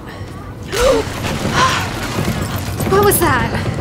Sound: gasps

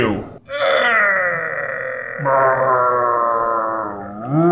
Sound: growling

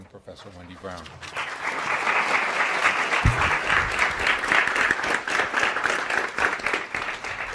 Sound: audience applauds

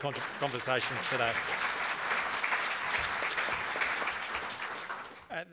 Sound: applause

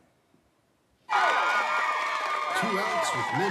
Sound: crowd cheering

